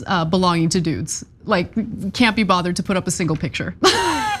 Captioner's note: laugh